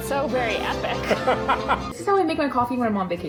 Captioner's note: laughs